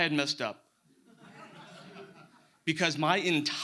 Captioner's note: audience laughs